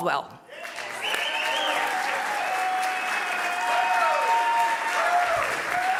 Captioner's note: audience cheering and applauding